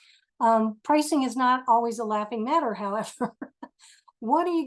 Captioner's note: laughs